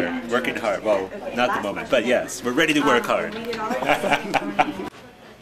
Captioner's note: laughing